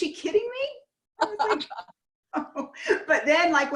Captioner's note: laughs